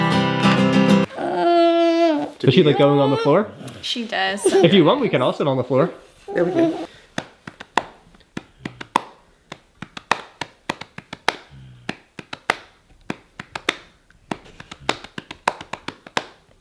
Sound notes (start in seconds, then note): 1.2 whines; 7.1 hands tapping